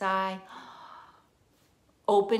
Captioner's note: inhaling